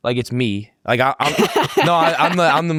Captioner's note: laughs loudly